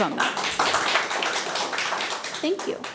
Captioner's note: audience applauding